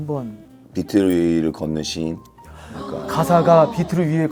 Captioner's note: haha